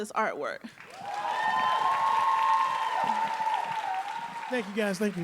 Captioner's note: audience applauding and cheering